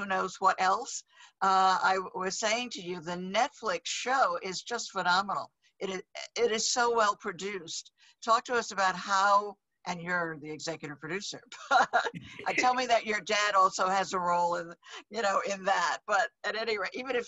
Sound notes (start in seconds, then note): 11.8 laughs